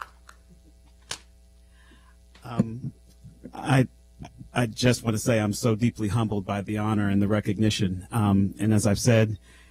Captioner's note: applause